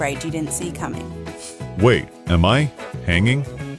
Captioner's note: laugh; sniff